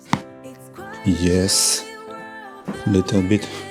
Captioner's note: crunches of bones